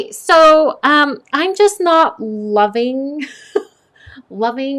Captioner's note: laughs